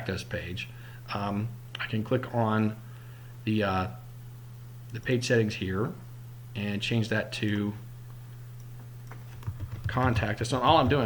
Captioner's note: typing